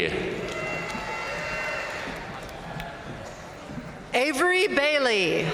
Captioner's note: audience cheering and applauding